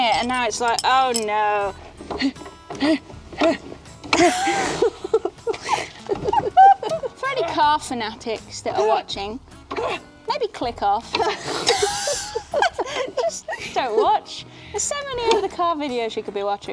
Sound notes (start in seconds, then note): 1.8 jokingly heaving; 4.0 laughing; 11.1 laughing